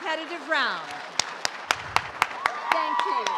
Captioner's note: audience applauds and cheers